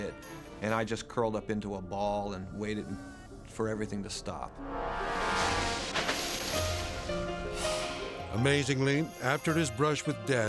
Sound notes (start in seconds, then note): 5.7 tree branches rustling; 5.8 dramatic music